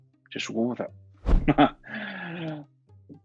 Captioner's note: chuckles